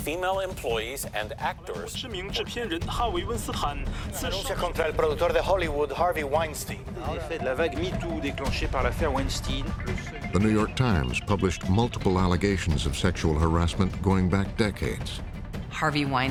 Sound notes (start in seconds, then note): 2.7 reporter speaking Chinese; 5.3 reporter speaking French; 5.3 reporter speaking Spanish